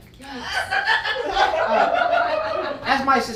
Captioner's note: audience laughing